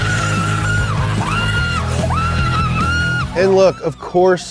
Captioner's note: woman excitedly screaming